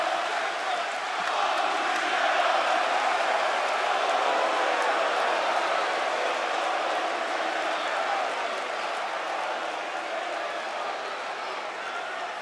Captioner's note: fans chanting